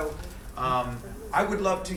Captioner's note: crowd murmuring